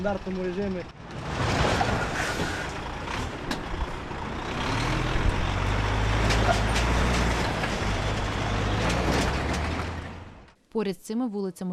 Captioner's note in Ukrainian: звук двигуна вантажівки